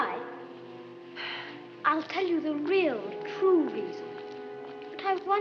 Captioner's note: sighs